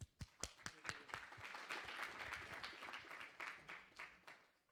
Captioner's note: applause